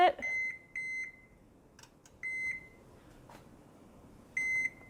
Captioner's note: oven beeping